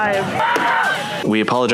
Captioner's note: gun bangs